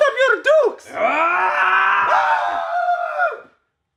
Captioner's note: bruce screams then reginald paddington screams